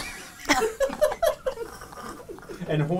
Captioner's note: all laugh